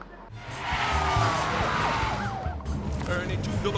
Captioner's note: police sirens